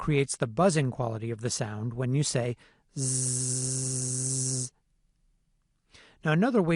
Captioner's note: zzzzzzzz